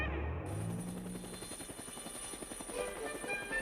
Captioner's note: whirring